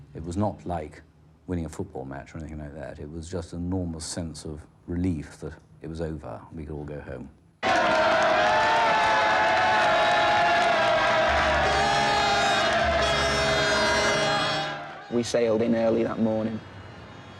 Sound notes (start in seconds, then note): 7.8 crowd cheering; 11.6 horn honking